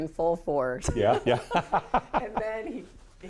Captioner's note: laughs